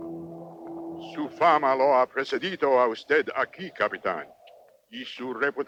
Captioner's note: Victorio speaks Spanish